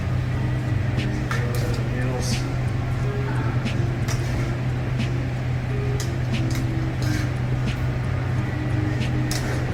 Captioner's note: tongs scooping; tongs scooping